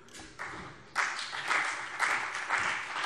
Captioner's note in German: Beifall CDU und BÜNDNIS 90/DIE GRÜNEN